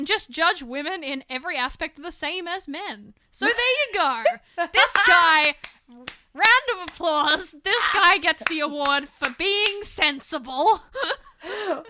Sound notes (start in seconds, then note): 4.8 claps